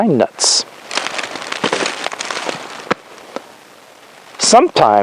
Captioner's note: leaves crunch